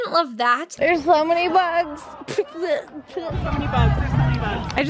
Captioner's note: sputtering